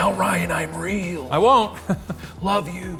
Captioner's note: laughs